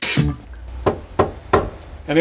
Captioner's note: knocking on the door